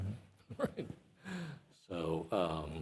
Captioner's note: chuckles